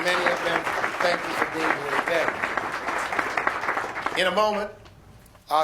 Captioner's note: applause